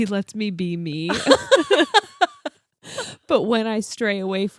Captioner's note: laughing